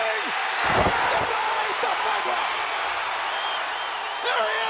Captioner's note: audience cheers